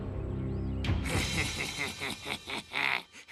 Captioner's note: laughs evilly